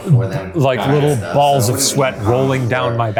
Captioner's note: site rep speaking faintly